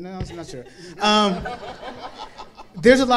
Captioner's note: panel and audience laughing